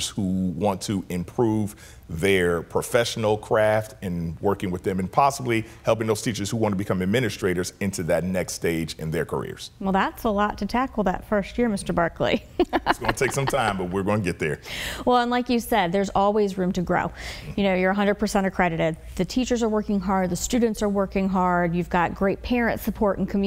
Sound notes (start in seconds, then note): 12.5 laughs